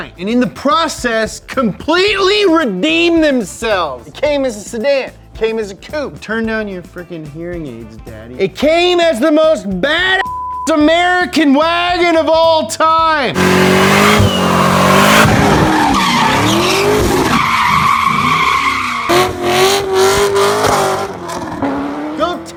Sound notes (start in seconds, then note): 10.2 beep; 13.3 engine revs; 13.3 tires screech